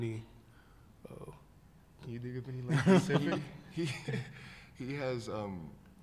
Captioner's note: laughter